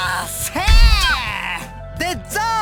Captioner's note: panicked cry